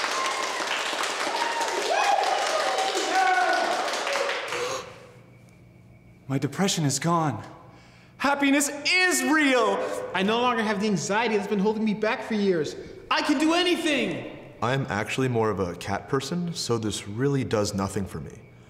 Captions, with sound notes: [applause] [gasps] My depression is gone. Happiness is real! I no longer have the anxiety that's been holding me back for years. I can do anything! I'm actually more of a cat person, so this really does nothing for me.